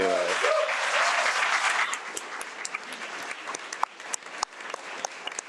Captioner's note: audience applauding